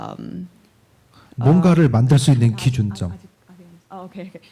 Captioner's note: speaking korean